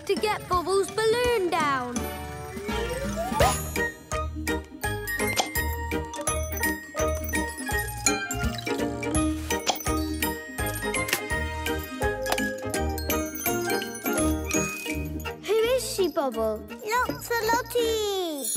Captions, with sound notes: - We need something to get Bobble's balloon down. (bubbles popping) (playful instrumental music) - Who is she, Bobble? - Locks-a-Lottie!